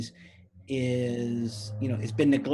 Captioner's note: car engine roars